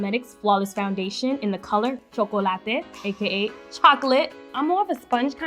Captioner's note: speaking foreign language